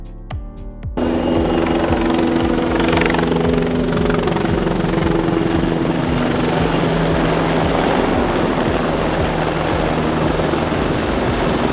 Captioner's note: engine roaring